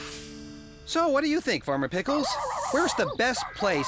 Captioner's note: barking